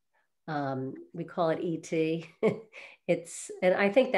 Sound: chuckles

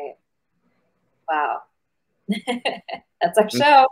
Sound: chuckles

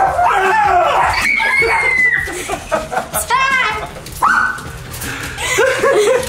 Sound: dog barking; kids scream; screaming; laughing

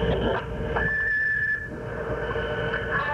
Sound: beep

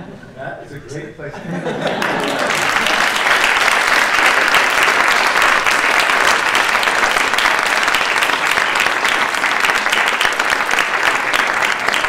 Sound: applause

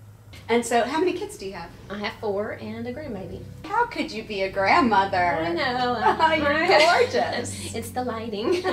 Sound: laughing

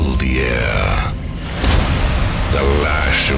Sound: monster Slams to the Ground

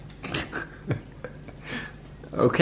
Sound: chuckles

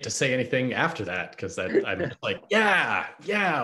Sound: laughs

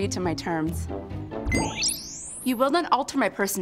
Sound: trilling

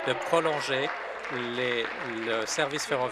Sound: applause

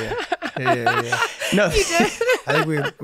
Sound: Megan laughing

